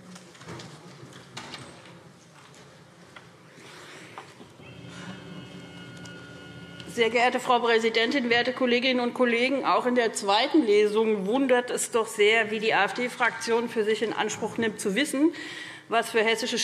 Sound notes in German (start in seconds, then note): none